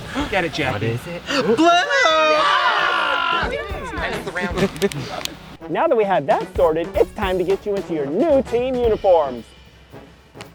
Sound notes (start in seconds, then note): 2.4 campers cheering; 10.3 snaps